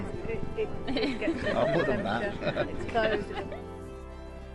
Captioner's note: laughter; peaceful music continues